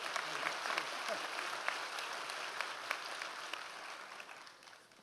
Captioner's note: audience applause